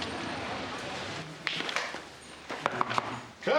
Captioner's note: knock, knock, knock